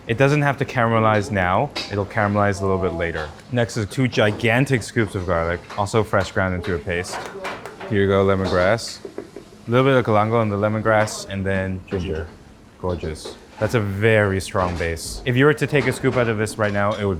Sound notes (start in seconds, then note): 7.2 people chatter; 7.2 utensils tap; 9.0 ladle knocks